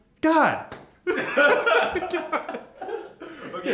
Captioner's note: laughters